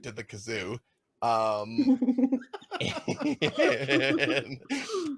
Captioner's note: laughing